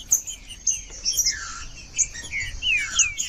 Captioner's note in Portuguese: trinca ferro cantando